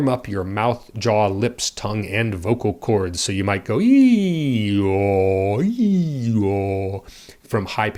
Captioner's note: makes high pitch to low pitch slide